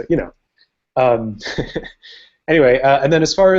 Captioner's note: laughs